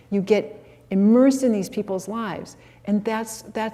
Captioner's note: none